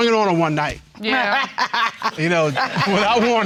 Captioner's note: laughing